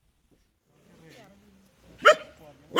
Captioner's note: dog barks